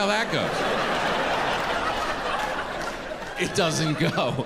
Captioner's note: audience laughing